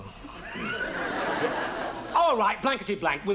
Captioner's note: audience laughs